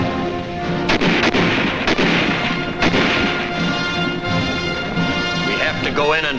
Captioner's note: dramatic patriotic music; guns firing